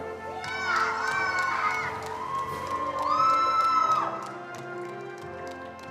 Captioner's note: attendees cheering and applauding